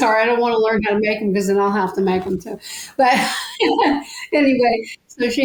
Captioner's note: laughs